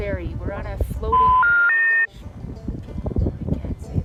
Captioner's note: dial-up bleep